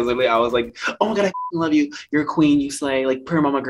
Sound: beep

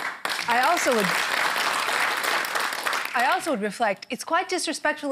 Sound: applause

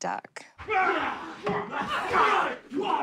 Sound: all grunting

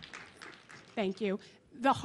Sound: applause

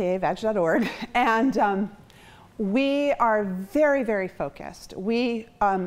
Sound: chuckles

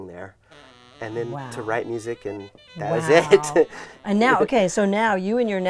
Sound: laughs

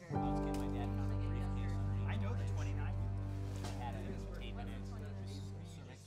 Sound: group chatting

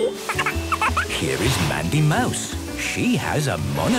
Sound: laughter; snorting; giggling

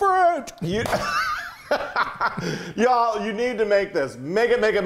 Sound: laugh

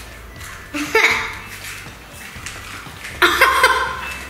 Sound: laughs

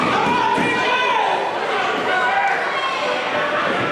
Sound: crowd yelling

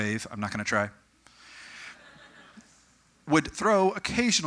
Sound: audience: Slight snickering

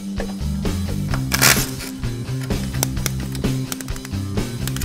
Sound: whirring

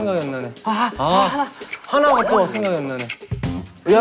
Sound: whispering

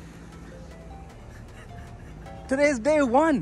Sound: laughs

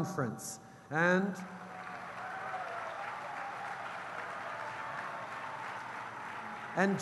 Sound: cheers & applause

